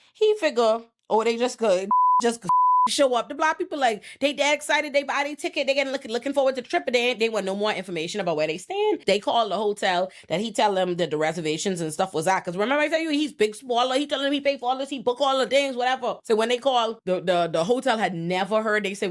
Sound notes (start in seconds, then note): 2.4 beep